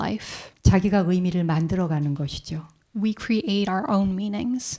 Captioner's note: speaking in Korean